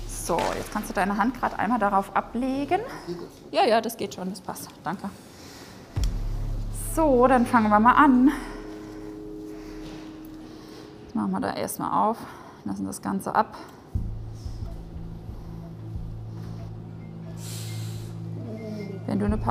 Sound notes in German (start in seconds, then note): 9.7 Starre Musik; 13.8 Geräte piepsen leise im Hintergrund; 18.3 Schmerzvolle Laute